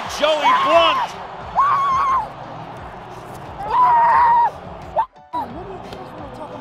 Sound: screaming

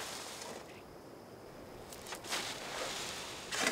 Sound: shoveling and gravel sifting

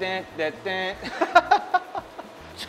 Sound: laughter

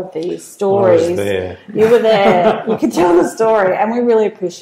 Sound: laugh

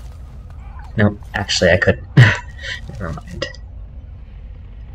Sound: laughter

